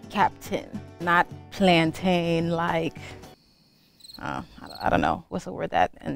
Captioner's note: crickets chirping